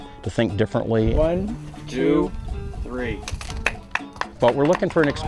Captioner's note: “One, two, three”, clapping